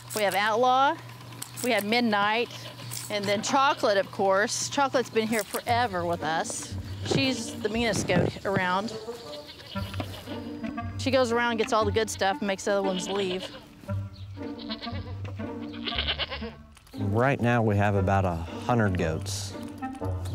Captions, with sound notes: We have Outlaw, we have Midnight, and then Chocolate, of course. Chocolate's been here forever with us. She's the meanest goat around. (cheery music) She goes around and gets all the good stuff and makes the other ones leave. (goats chattering) - Right now we have about 100 goats.